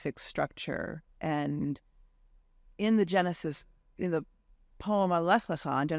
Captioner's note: faintly speaking